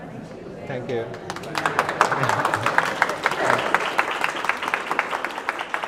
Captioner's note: applause